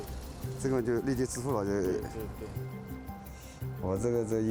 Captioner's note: speaking Chinese